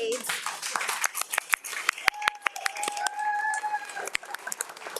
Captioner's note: audience applauds